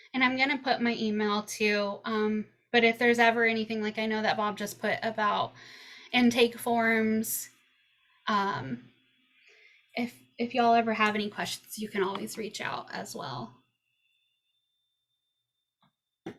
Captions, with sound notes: -I'm going to put my email too. If there's ever anything, like I know that Bob just put about intake forms. If y'all ever have any questions you can always reach out as well. [silence]